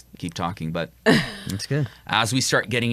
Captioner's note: chuckles